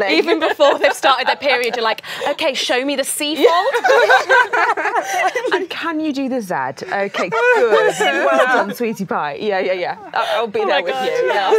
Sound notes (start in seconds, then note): 3.4 laughing